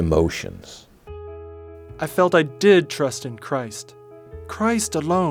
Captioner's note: voice as John Wesley